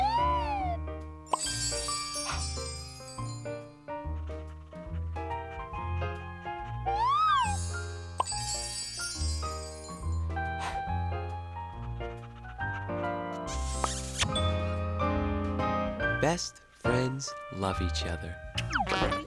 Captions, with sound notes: (SFX: Kiss) Best friends love each other.